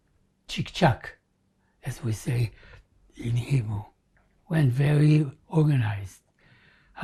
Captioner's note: hebrew